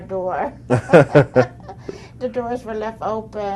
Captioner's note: laughter